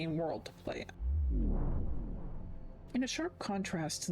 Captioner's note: vwoom